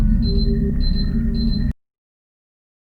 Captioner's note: beeping